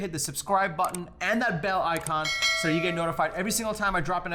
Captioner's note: bell ringing